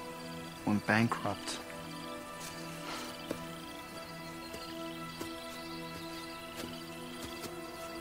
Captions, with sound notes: went bankrupt. (Eric sighs) (ominous music)